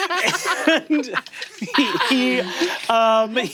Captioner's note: players laughing; laughs